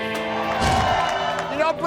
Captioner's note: crowd cheering